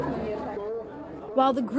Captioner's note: indistinct chatter